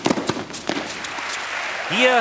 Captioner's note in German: Applaus